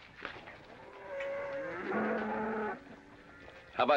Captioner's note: cattle mooing